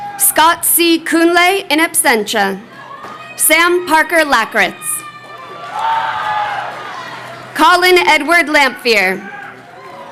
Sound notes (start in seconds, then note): 5.6 crowd cheering